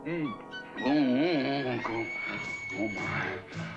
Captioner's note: groans with pleasure; groans